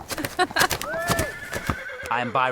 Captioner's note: Autumn chuckles; horses neigh